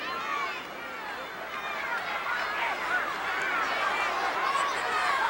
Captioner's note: audience shouting